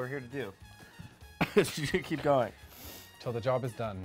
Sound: coughs

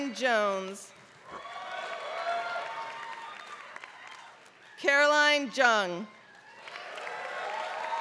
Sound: applause

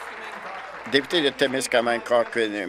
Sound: applause

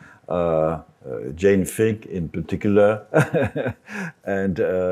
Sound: laughs

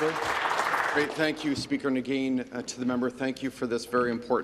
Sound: some Applause

